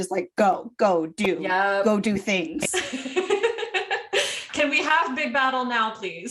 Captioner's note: laughter